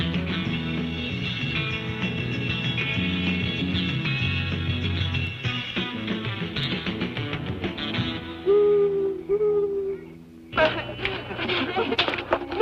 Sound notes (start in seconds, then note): 8.4 owl hooting; 10.5 laughing